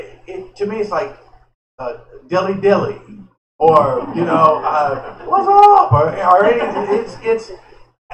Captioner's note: laughter